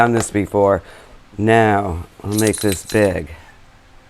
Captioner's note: bells ringing